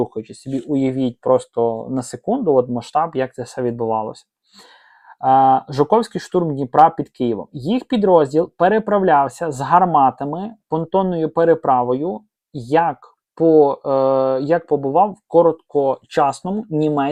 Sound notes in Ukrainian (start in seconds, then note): 4.5 сопіння